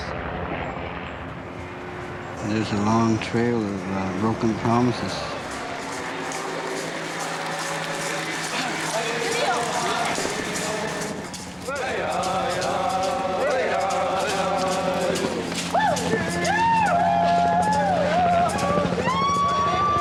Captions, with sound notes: THERE'S A LONG TRAIL OF BROKEN PROMISES. [ Chanting ]